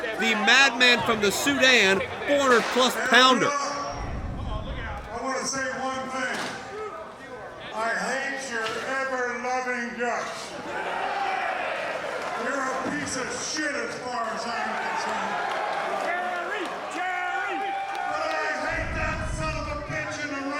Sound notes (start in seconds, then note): 11.1 crowd cheers